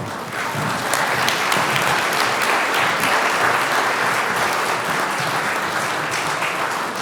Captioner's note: applause